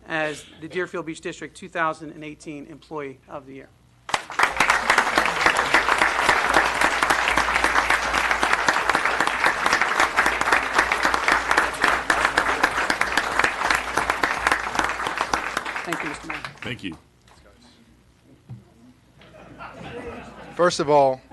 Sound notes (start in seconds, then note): 4.0 applause